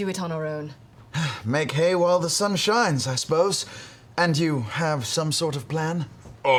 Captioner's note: sighs